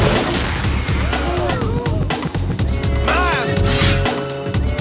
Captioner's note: crowd screaming